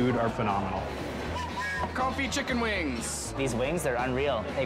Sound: whistle blowing

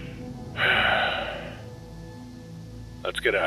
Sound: sigh

